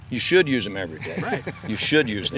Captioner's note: laughing